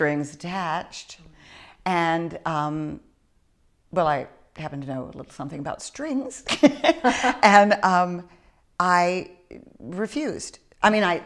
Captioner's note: laughs